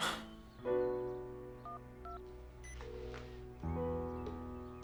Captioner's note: dialling